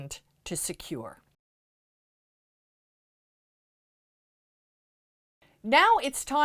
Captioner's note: no Sound Present